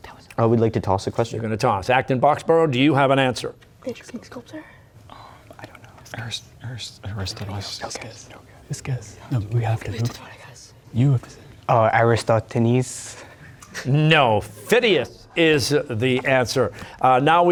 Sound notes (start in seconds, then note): 4.3 whispering; 13.7 mild laughter